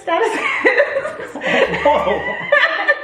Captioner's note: mom laughs; laughs